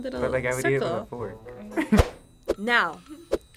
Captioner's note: laughs